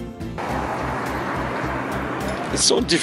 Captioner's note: cars passing